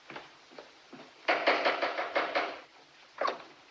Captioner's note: knocking